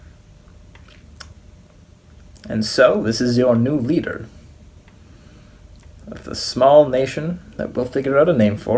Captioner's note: smacks lips